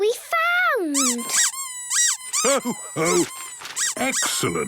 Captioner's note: squeaking